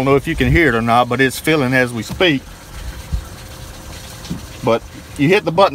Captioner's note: water flowing